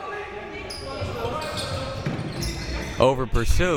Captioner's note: players yelling